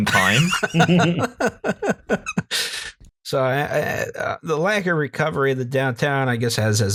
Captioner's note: laughter